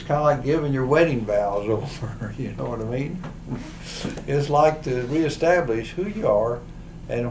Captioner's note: laughs